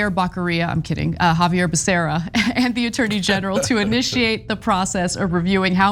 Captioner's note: laugh